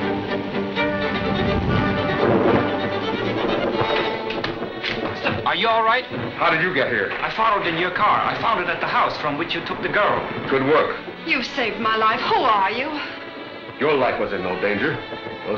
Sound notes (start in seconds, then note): 2.8 storm raging